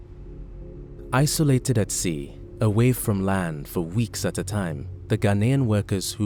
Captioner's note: voiceover